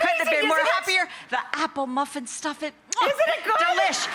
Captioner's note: kissing